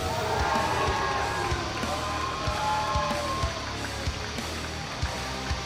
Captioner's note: cheers and applause